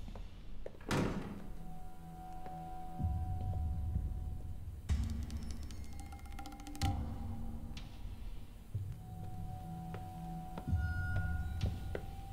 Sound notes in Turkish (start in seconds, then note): 0.8 Kapı kapanma sesi; 4.1 Müzik - Gerilim